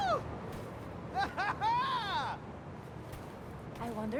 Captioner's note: person on sidewalk laughs